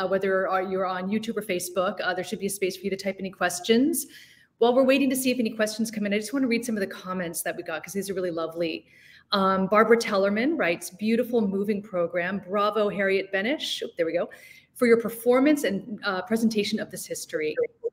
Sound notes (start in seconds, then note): none